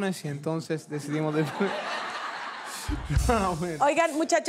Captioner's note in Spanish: Público ríe